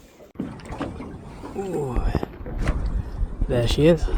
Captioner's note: old Man Noises